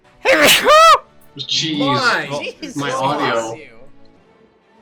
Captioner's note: various shocked reactions